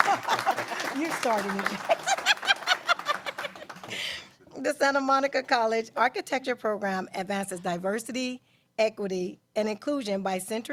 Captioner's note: applause